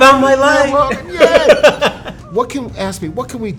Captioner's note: laughing